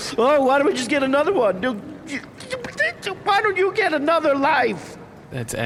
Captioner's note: indignant/tearful spluttering